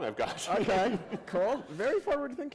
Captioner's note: laughter